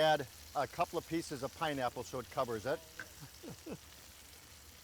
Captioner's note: chuckles